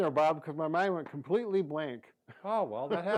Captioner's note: laughs